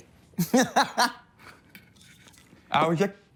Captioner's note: laughs